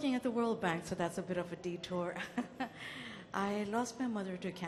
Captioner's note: laughs